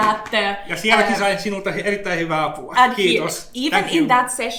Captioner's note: speaks in Finnish language